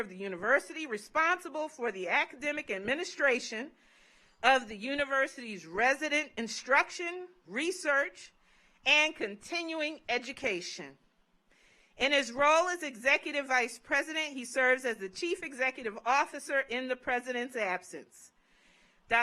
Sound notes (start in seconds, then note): none